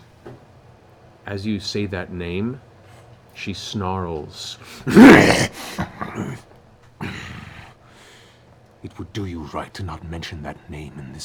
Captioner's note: roars